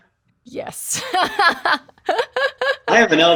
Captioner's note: laughing